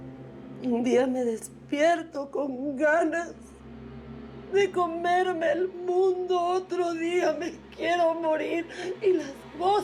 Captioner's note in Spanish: sollozos